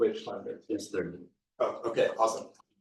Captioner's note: people chattering distantly